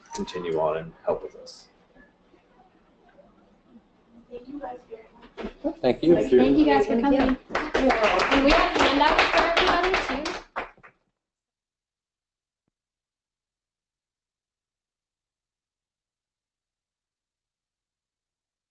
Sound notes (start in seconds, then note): 7.2 applause